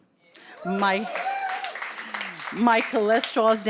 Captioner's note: audience cheers